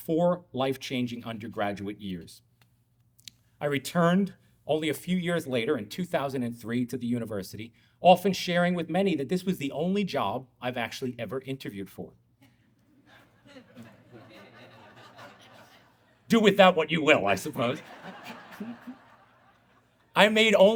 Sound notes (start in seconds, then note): 12.8 audience laughing